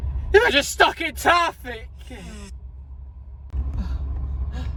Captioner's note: shouts